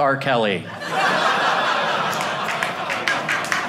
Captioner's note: audience laughing